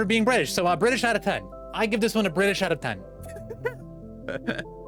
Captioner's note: gremlin laughing